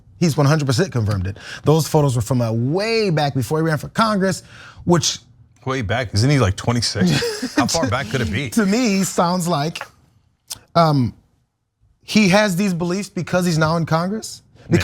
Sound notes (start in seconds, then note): 7.0 laugh